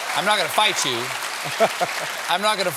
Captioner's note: applause